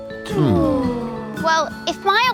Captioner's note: Marv, Floret, and Rhubarb sighs